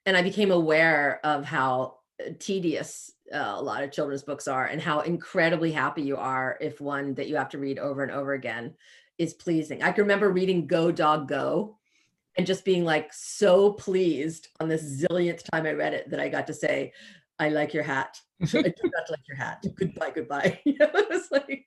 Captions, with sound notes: I became aware of how tedious a lot of children's books are, and how incredibly happy you are if one that you have to read over and over again is pleasing. I can remember reading "Go, Dog. Go!" and just being so pleased on the zillionth time I read it that I got to say, "I like -your hat." -[chuckles] "I do not like your hat. Goodbye, goodbye." [laughs] It was like--